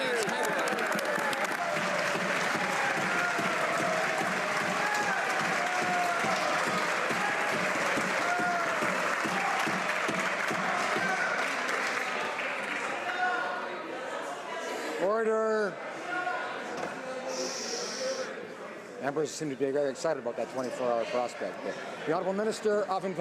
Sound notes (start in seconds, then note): 6.9 applause